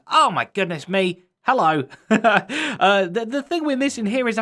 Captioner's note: chuckles